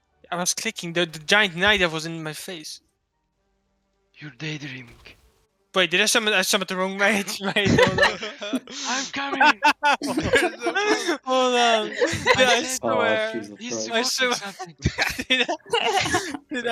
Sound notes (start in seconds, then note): 9.8 hahahahahaha